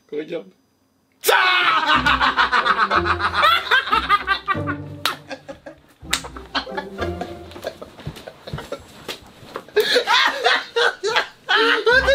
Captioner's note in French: Fou rires